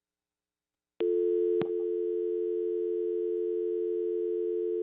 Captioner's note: phone dial tone